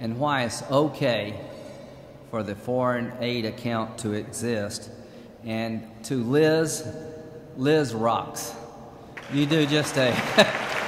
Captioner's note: applause